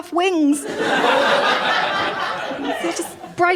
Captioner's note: laughter